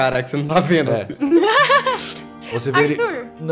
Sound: laughter

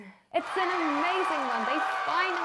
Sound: cheering

